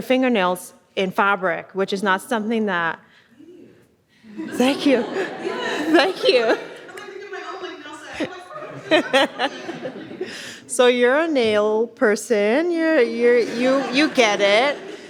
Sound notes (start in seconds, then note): 6.9 speaking faintly